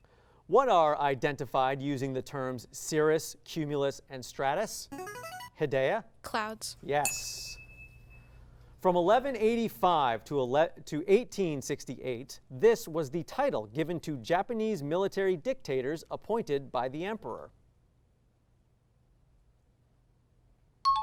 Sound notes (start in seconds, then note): 4.9 signaling device tone; 7.0 ding; 20.9 high-pitched tones